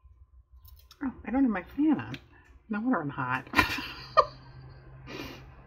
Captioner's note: laughs